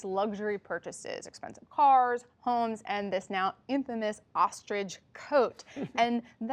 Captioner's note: laughter